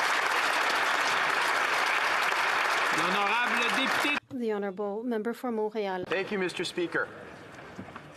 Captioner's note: applause